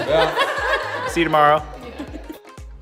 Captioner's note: laughs